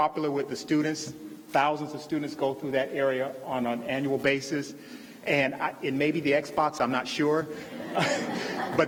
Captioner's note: laughter